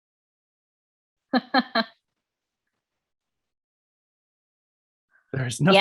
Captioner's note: laughs softly